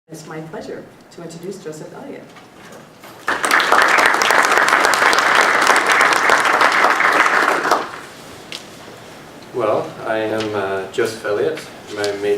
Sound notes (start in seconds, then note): 6.9 applause